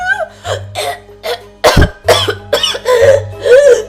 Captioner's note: also choking now